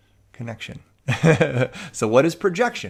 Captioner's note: chuckles